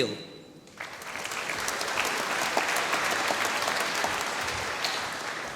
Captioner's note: applause